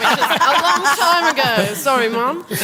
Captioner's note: laughter